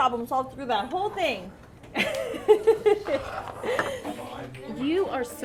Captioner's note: laughter